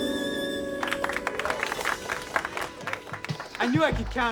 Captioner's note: applauding